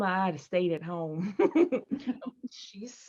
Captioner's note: Peaches laughs